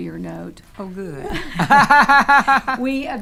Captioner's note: laughing